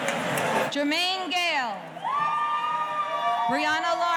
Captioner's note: audience cheering